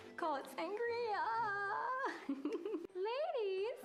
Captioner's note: laughs